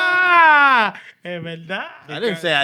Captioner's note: screaming